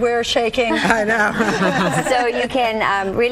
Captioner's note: laughing